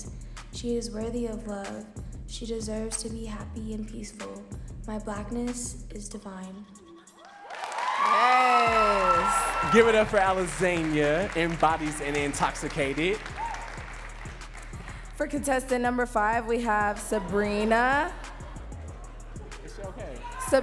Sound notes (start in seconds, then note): 7.2 audience cheering and clapping